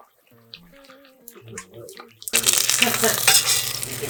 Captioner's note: grease popping